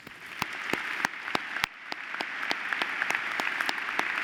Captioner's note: applause